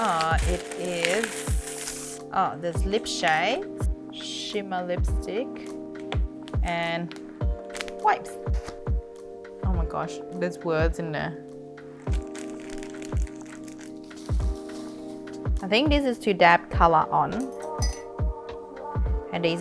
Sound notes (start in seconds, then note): 11.9 crackling; 14.3 crinkling; 17.4 clinking